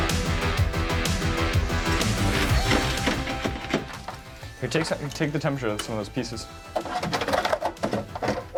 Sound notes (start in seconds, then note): 1.8 tool scraping